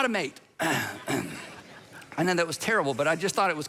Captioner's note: audience laughs